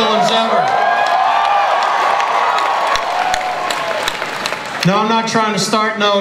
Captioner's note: audience cheering and applause